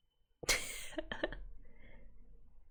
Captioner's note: laughs